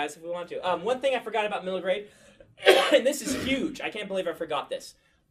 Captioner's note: coughs